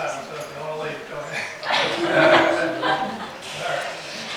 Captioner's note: all laugh